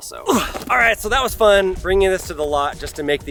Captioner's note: grunts